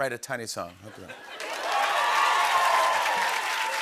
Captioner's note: cheers and applause